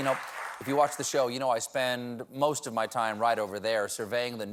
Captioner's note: cheers and applause